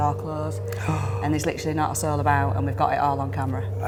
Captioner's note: gasps